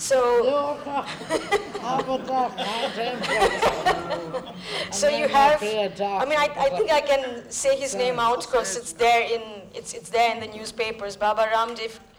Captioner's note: laughter